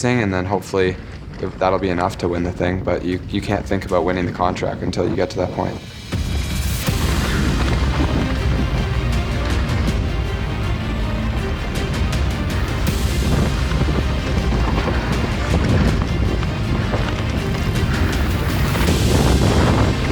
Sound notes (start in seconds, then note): 5.7 air whooshing; 7.0 upbeat music